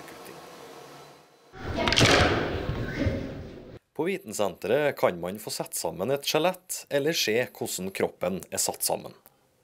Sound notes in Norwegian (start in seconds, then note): 1.7 Lyd av bein som klirrer mot hverandre. Barn som snakker i bakgrunnen